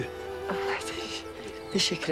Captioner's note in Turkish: Gülüyor